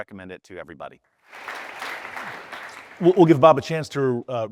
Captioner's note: audience applauding